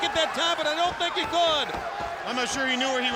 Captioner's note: footsteps plodding